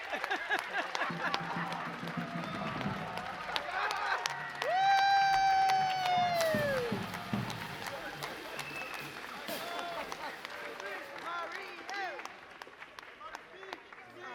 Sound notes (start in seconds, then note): 6.8 audience cheering